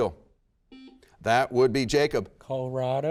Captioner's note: buzzer rings